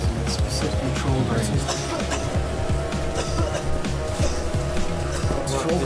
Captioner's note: coughing